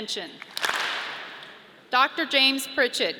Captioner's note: audience claps